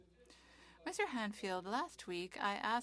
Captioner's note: speaking French